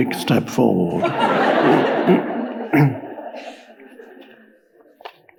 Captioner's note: audience laughs